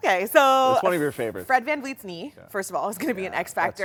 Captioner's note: laughs